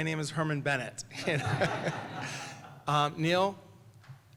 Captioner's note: laughter